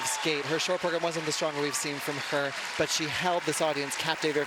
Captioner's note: cheers and applause